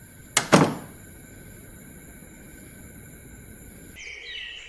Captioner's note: door clattering; birds chirping